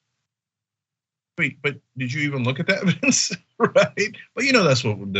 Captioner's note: laugh